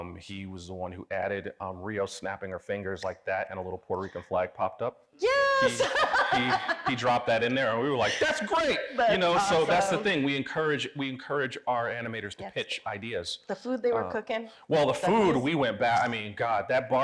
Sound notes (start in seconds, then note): 3.6 snaps; 5.6 laughs; 5.6 audience laughing